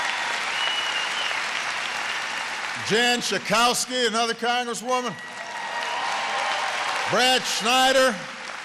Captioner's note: applause